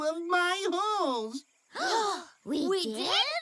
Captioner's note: gasp